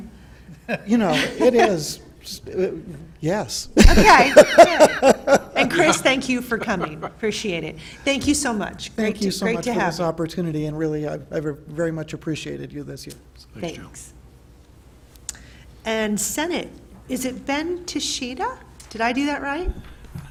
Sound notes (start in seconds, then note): 1.1 laughter; 3.8 laughs